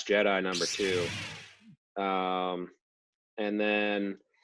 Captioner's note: lightsaber sound